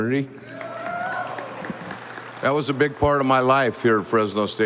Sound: audience applauding

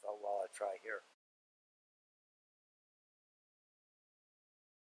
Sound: silence

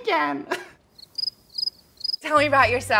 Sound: chuckles; crickets chirping

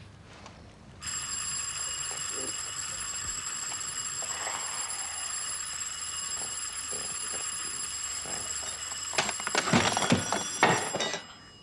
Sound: doorbell rings

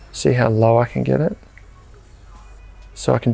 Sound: flame hissing

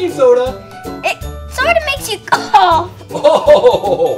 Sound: coughs; laughs

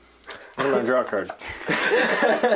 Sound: laughter

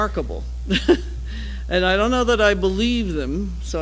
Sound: laugh

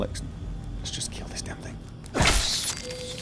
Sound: whispered

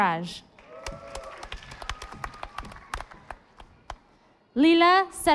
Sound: audience applauding

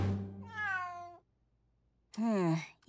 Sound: meowing

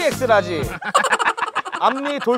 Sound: laughing

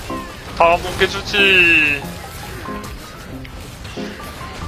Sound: excited

